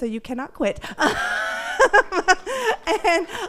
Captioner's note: laughing